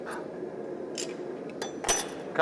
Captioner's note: pliers squeaking